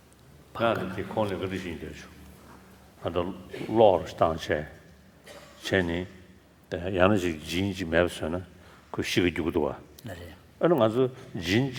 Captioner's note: foreign Language